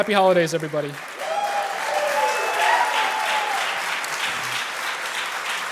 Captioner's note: applause